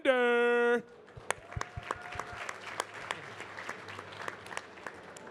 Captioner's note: audience clapping